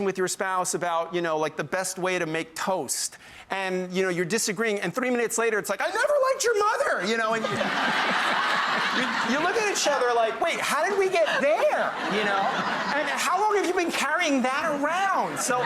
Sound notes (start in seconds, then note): 7.8 audience laughing